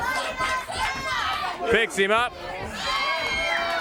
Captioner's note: crowd chatter; crowd cheering